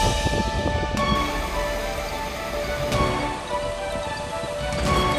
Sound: water running

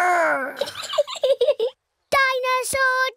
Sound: giggles

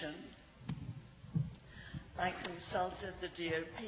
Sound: microphone noises

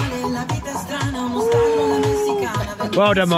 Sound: sighs and laughs

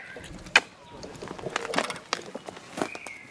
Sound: ground crunches

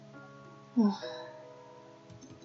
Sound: sigh

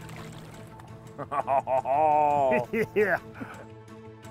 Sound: laugh

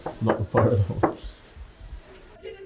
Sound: knocks door

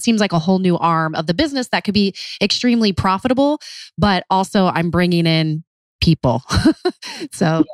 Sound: laughs

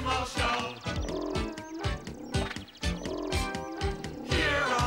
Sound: animal noises

